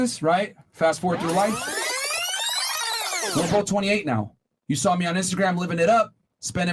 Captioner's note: fast forwarding sounds